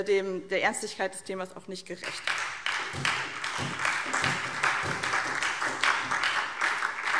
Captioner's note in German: Beifall SPD und DIE LINKE